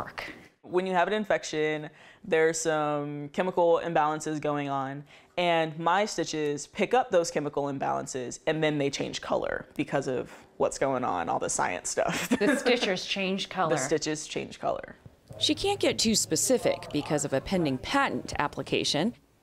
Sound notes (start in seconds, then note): 12.1 laughter